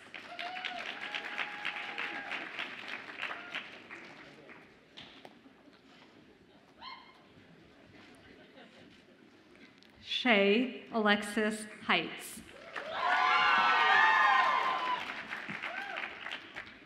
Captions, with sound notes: (audience applauds and cheers) Shae Alexis Heitz. (audience applauds and cheers)